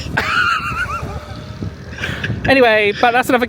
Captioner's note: laughing